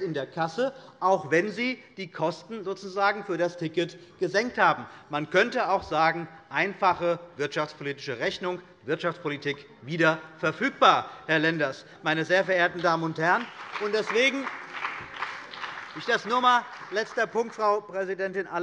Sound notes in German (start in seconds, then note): 12.5 Beifall bei der CDU und dem BÜNDNIS 90/DIE GRÜNEN